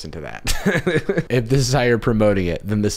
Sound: laughs

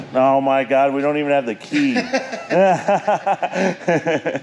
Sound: laughs

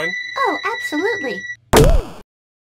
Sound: whistle

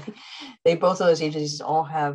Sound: chuckles

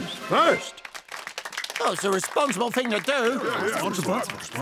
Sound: applauding

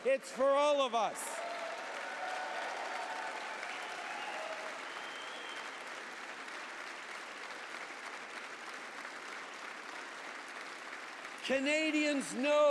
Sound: applause

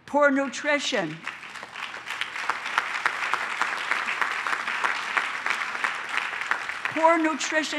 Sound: applause

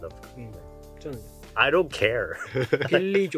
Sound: speaking in Korean

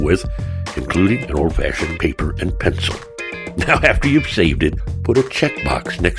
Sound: chuckles

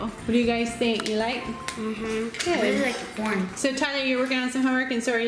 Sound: none

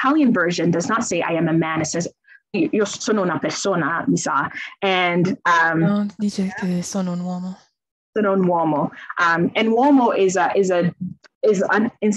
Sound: speaks in Italian

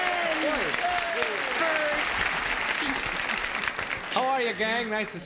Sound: cheers and applause

